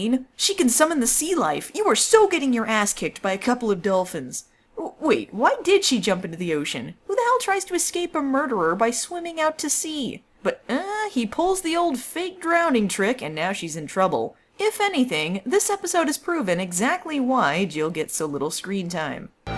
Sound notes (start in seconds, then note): 10.6 confused noise